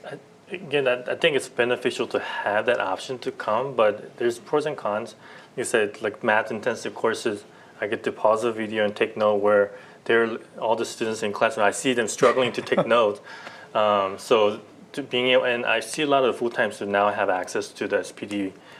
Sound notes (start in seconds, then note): 12.2 laughter